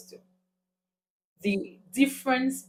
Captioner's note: paause